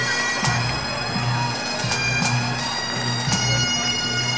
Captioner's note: audience cheering